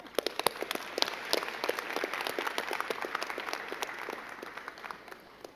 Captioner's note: crowd clapping